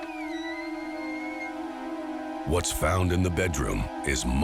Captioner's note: door squeaking